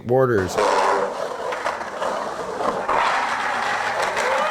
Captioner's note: wheels screeching